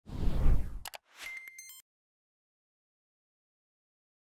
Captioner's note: whoosh, click beep